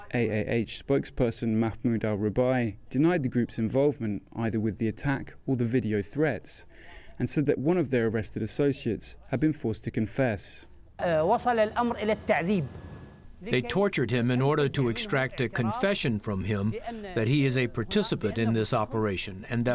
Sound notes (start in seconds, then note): 12.7 through translator